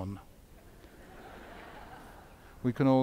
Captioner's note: audience laughs